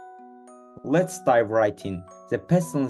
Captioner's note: enthusiastically